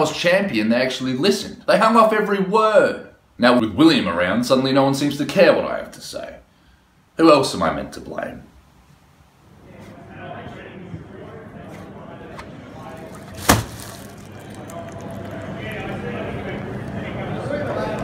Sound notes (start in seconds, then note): none